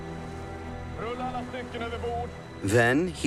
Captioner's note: speaking Swedish